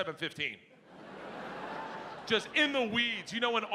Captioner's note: audience laughing